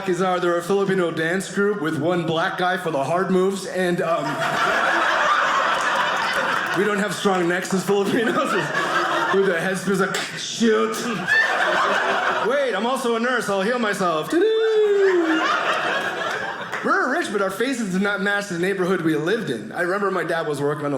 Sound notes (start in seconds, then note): 3.5 audience laughing; 9.9 cracking sound; 11.6 audience laughing; 14.9 audience laughing